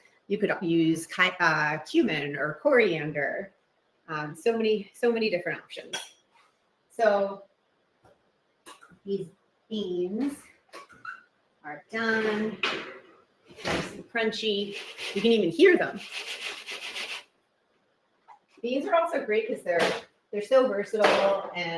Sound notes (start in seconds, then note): 16.1 beans rattle